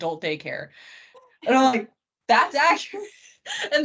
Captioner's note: laughing